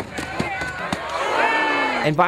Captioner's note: crowds yelling